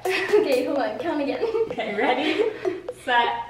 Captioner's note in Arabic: ضحك